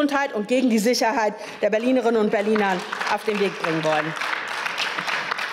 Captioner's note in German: Beifall